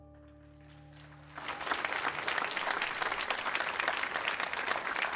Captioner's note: audience applauds